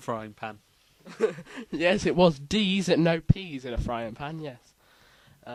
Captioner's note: chuckles